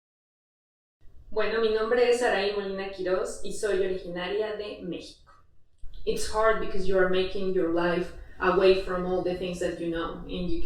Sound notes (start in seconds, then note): 2.4 in Spanish